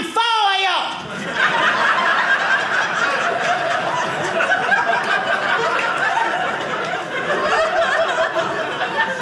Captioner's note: audience laughing